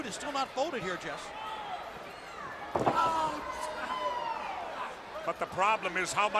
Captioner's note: crowd chatter